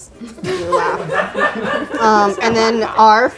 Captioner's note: group laughs